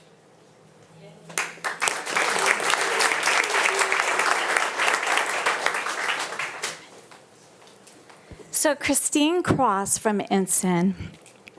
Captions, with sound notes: (audience applauding) So Kristine Cross from Ensign.